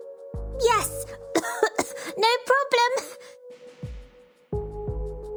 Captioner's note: cough